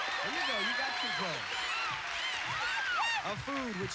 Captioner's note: cheers and applause